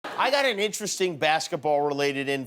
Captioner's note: laughter